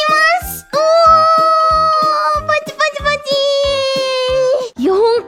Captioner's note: excited bunny noise